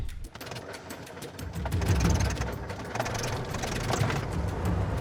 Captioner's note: propeller whirring